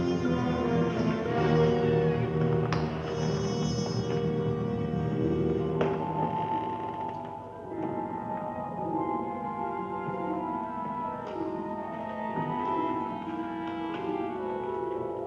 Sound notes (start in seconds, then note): 1.8 candle creaking; 6.2 door creaking; 8.7 mysterious music